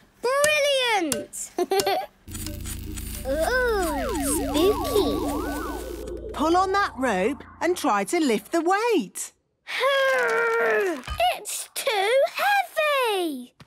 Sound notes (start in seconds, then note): 2.3 pulsing